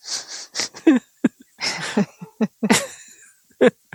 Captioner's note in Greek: γέλια